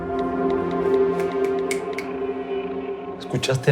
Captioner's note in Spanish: Chasquidos